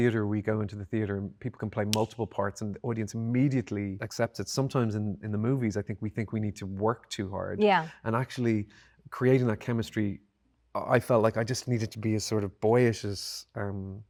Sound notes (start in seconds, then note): none